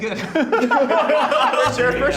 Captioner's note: group laughing